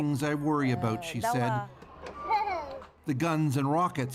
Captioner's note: speaking Alternate Language